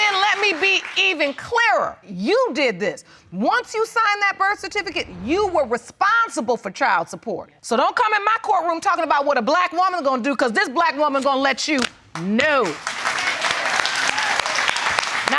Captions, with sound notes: And then let me be even clearer, you did this. Once you sign that birth certificate, you were responsible for child support. So, don't come into my court room talking about what a black woman gonna do 'cause this black woman gonna let you know. (AUDIENCE APPLAUDS)